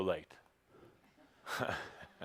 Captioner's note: chuckles